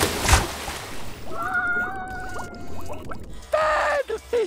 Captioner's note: screaming